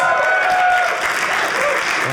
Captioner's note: audience applauding